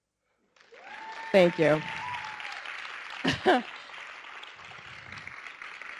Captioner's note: audience clapping